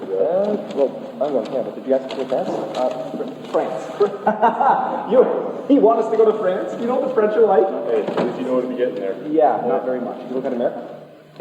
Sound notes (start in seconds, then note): 3.6 laughs